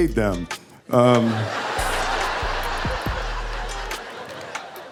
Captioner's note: audience laughing